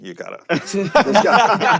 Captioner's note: laughs